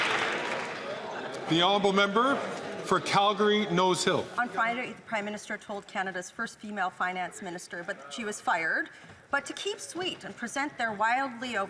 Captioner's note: some Applause